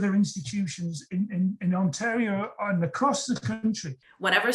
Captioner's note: voice breaking out